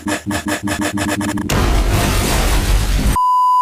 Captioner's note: kaboom!